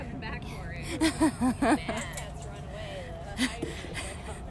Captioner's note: laughter